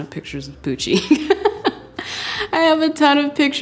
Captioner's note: laughing